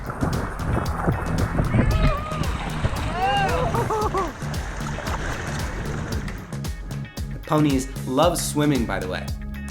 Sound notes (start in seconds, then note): 2.1 shouting